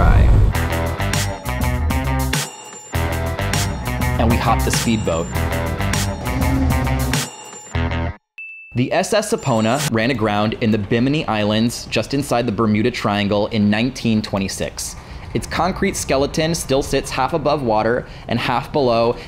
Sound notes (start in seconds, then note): 8.4 ding